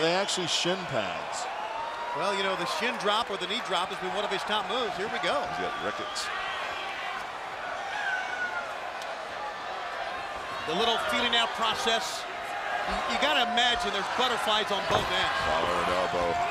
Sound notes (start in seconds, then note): 7.2 crowd cheering